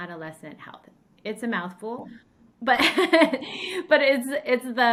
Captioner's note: laughs